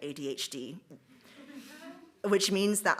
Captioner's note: audience chuckles